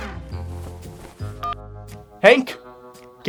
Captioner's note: phone beeps